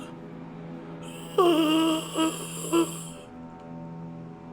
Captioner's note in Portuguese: Grunhidos